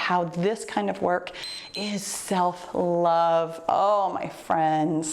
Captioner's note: timer beeps